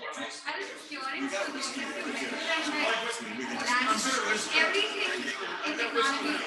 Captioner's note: people chattering indistinctly